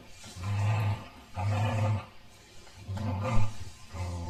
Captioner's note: dog growling